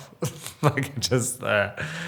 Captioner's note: Robert laughs